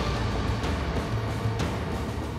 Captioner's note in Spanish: Estruendo